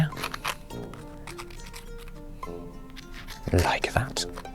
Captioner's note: glue tube scratches